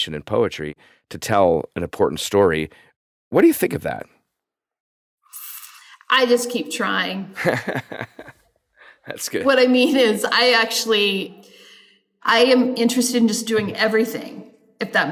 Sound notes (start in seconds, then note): 7.4 laughs